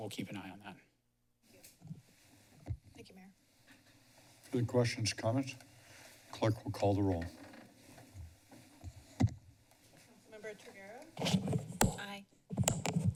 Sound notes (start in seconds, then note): none